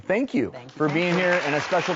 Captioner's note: audience clapping